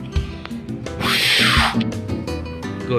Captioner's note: fwhhaaaaahhooooohhhh!!!